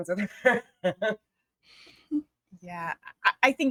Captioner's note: chuckling